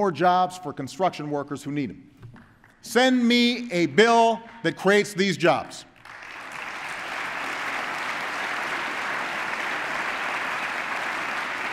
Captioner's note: applause